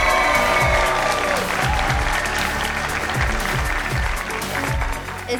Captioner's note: audience applauding and cheering